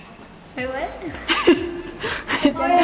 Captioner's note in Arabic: أمي تضحك